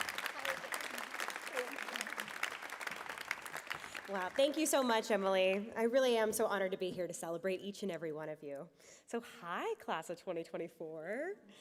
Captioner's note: applause